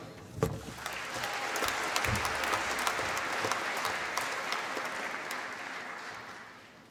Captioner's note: applause